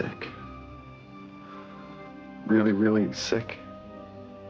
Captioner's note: inhales